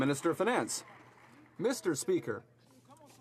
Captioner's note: some Applause